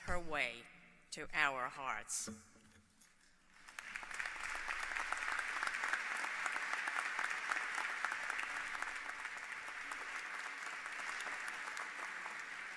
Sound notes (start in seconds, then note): 4.4 applause